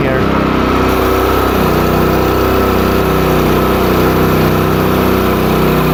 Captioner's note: engine runs, paint sprays